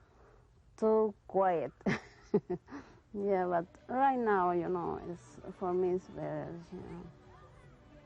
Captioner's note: laughs